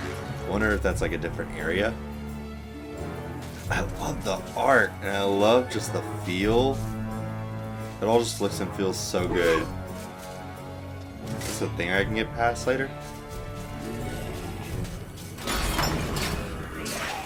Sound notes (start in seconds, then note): none